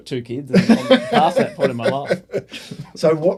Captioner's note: laughing